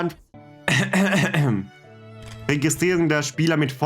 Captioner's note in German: räuspern